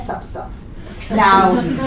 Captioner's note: laughter